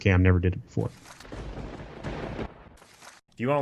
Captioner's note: thunder crashing